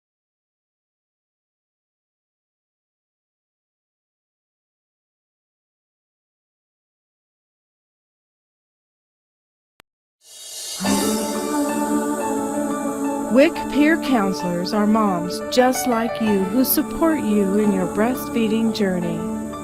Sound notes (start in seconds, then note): 10.5 gentle inspirational music; 13.5 voiceover